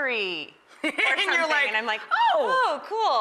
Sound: laughs

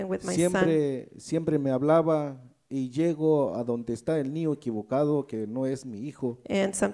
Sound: speaks in foreign language

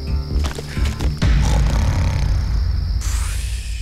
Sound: snoring

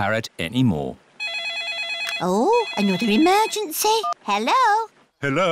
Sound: phone rings

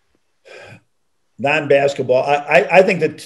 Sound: John sighs

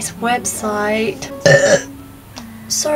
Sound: burp!

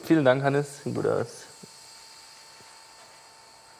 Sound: soft whirring in the background

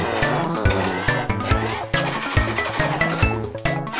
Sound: mechanical sounds

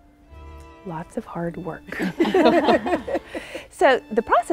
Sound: all laughing

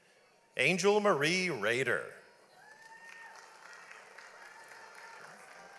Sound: audience applauds

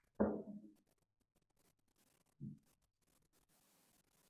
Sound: glass thuds

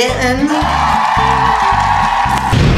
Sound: cheering sound effect

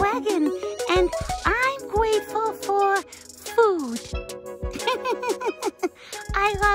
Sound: laughs

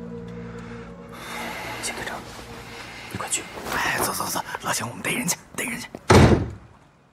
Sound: whispering

